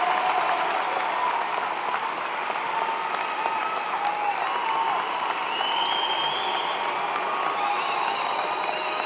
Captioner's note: cheers and applause